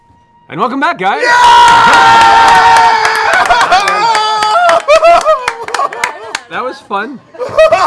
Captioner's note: cheering